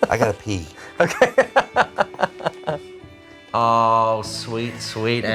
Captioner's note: laughing